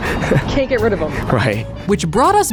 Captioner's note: laughs